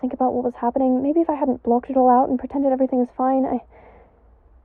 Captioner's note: sighs